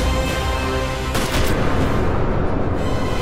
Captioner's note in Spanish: Disparo